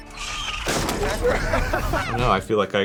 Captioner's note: laughing